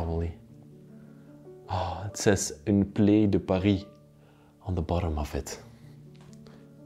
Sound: speaks French

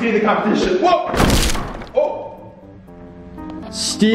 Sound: crunch

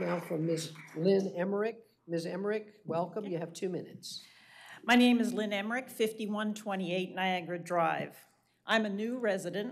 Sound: applause

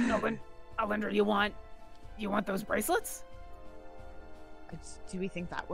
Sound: in Orkira voice

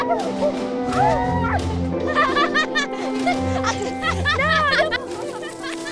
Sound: Bellatrix and Andromeda laughing; warm pensive music

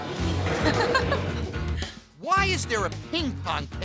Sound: audience laughing

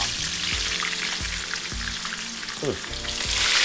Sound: oil sizzling

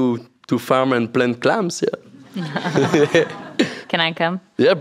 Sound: laughs

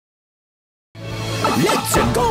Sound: slash effect noise

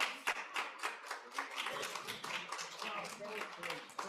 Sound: audience applauds; crowd chattering

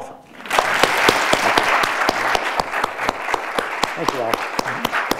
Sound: audience applauds

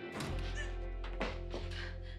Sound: gasps

